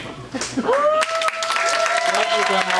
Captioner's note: audience applauds